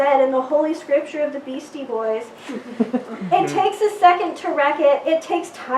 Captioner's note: giggles